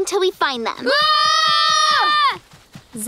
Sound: screaming

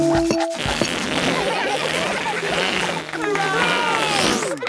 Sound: balloon squealing; children laughing; applause, cheering

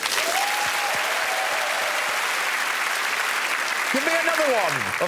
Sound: cheers and applause

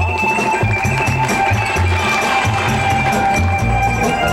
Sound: audience applauds

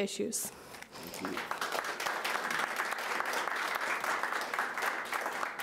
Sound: audience applauding

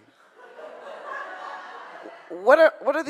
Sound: audience laughs

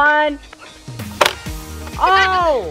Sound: click

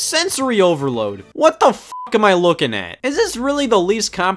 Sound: beep

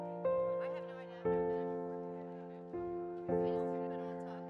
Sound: quiet chatter

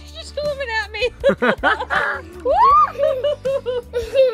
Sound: laughing

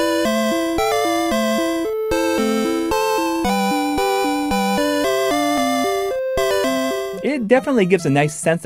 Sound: game audio

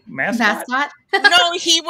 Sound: laughs

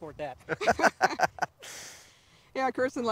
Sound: laughing

